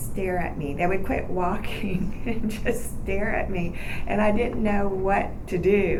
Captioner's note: laughing